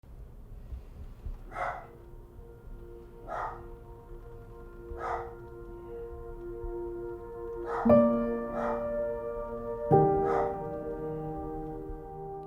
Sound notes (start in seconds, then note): 1.4 dog barking; 8.8 solemn music